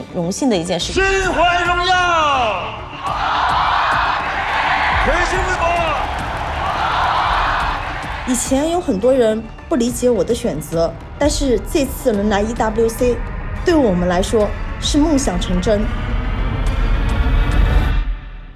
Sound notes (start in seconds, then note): 2.1 crowd cheering, chanting; 3.1 announcer speaking Chinese